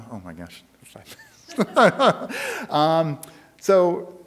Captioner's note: speaker laughs